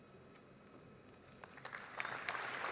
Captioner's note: applause